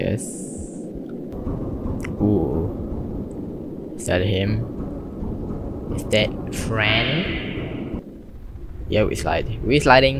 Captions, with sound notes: ( thumping sound in the tunnel ) is that him? is that F R I E N D ? yeah we slide, we sliding